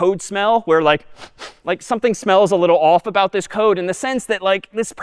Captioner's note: sniffing